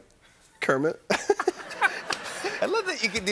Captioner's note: laughter